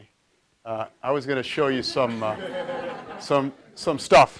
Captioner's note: audience laughs